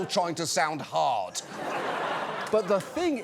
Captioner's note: laughter